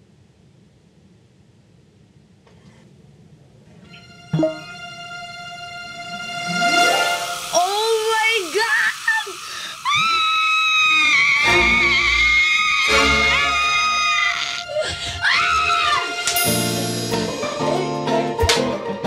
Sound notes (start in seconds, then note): 9.5 screams hysterically